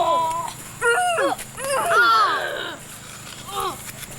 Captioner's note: grunting